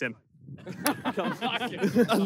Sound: players laugh

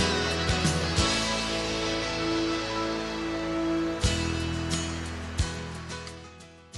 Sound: sea waves

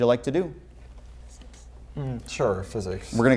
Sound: soft Female Voice

